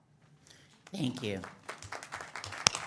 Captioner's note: audience applauds